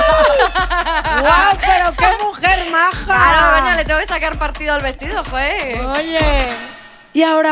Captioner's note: in a spanish accent